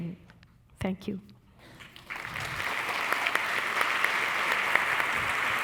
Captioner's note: audience applauding